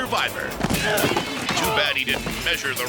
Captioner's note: jumper grunts